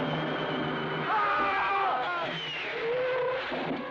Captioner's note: screaming